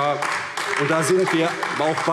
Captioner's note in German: Beifall AfD